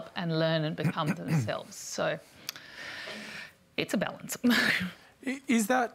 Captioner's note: chuckles